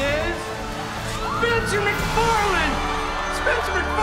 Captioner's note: crowd cheers